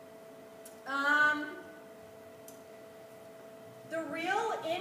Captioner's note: silence